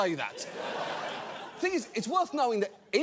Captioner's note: audience laughs